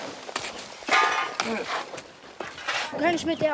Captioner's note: metallic clanging